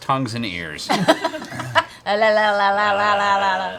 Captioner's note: laughs